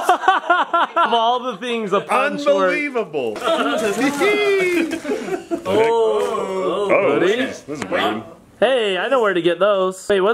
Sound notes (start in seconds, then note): 0.0 laughing; 3.4 laughing